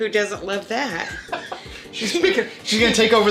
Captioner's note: laughter